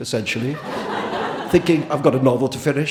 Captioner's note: audience laughing